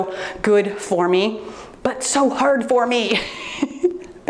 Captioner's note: laughs